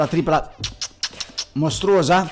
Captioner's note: smooches